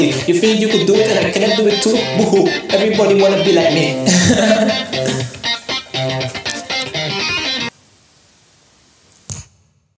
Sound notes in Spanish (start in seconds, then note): 4.1 risita